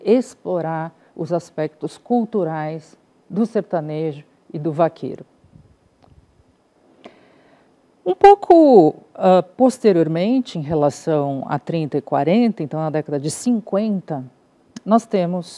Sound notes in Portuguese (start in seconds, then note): 5.8 silêncio